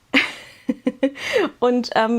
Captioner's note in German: gelächter